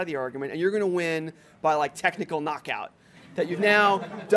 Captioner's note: laughter